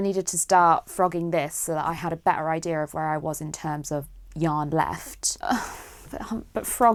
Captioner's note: sighs